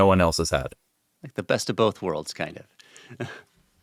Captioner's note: chuckles